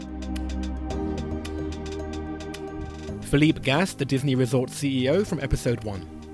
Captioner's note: voiceover